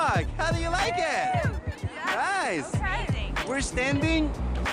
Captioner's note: cheering